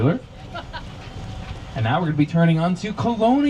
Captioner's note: passenger laughs